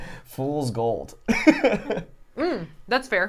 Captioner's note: laughs